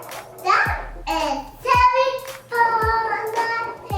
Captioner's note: babbling